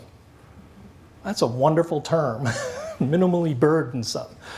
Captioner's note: laughs